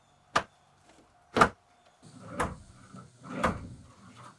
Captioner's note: hammer strikes